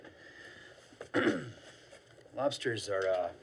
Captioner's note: clears throat